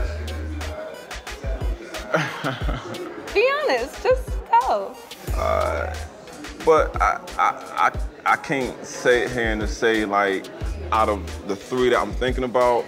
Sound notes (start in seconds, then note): 1.9 chuckles